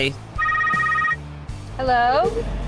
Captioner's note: phone rings